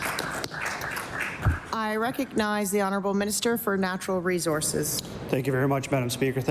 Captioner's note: applause